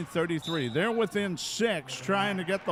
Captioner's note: referee whistling